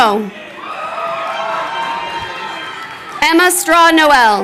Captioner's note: crowd cheering